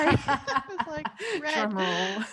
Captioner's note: women laughing